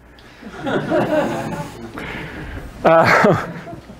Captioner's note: laughter